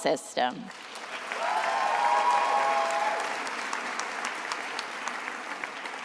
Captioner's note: attendees applauding and cheering